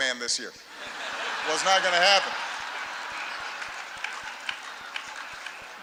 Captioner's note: laughter